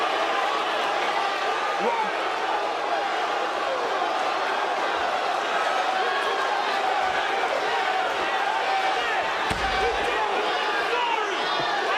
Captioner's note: crowd boos